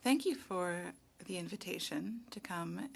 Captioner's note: speaking French